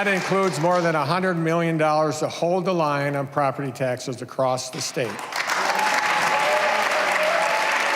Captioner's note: cheers and applause